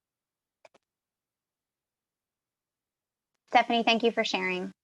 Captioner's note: keyboard clicking